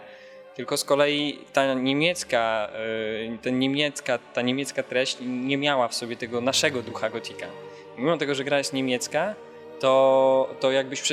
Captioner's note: Polish